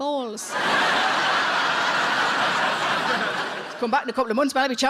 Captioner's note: audience laughs